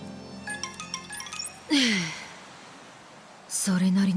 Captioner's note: exhale